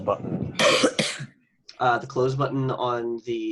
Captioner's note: coughs